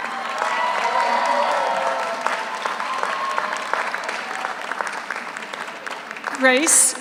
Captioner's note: audience cheers; audience applauds